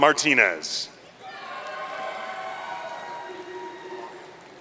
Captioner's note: audience cheering